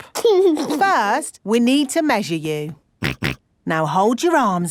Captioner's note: snorts